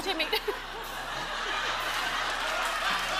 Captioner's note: laughter